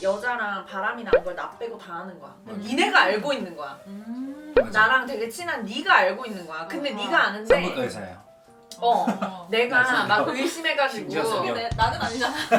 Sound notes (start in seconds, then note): 8.9 laugh